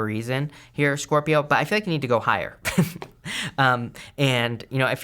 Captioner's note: he chuckles